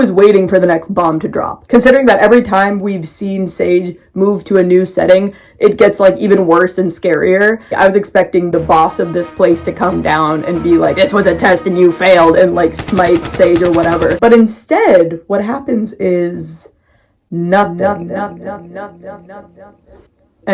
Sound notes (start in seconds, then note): 8.5 intense music; 12.6 machine gun sounds; 18.1 words echoing